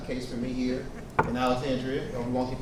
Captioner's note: hand knocking